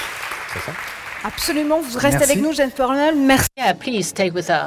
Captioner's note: applause; speaking french